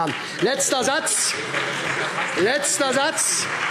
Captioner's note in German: Heiterkeit und Beifall SPD